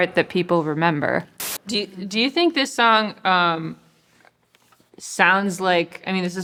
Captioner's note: television static hisses